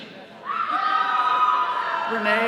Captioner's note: all cheering